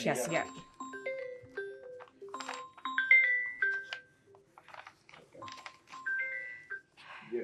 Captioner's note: phone ring